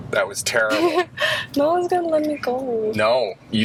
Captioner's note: laughs